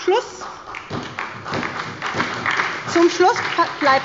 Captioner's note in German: Beifall bei der SPD